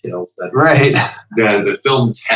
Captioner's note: laughter